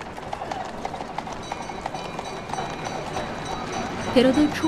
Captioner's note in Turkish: Tramvay zili sesi